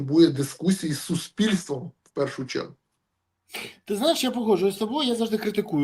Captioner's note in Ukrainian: сопіння